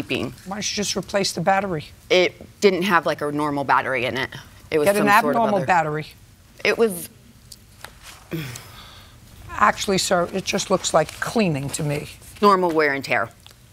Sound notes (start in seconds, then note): 8.2 sighs